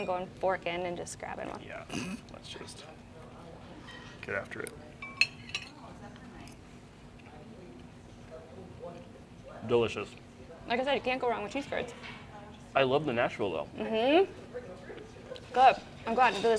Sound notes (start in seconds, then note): 6.9 chewing